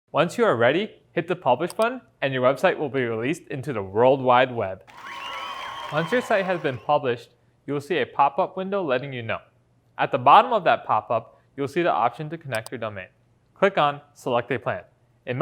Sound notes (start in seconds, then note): 4.8 audience cheering